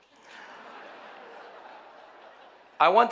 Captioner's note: audience laughing